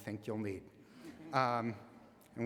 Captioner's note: laughter